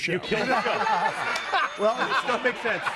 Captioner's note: laughs